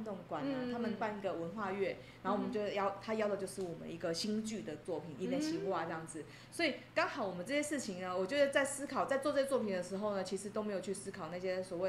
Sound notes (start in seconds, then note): 6.0 Taiwanese